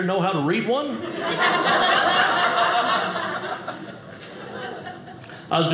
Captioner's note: audience laughing